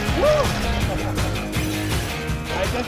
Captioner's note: laughing